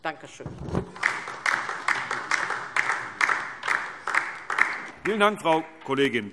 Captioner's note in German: Beifall DIE LINKE